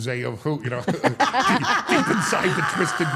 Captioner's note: all laughing